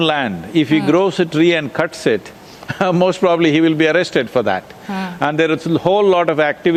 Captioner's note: laughs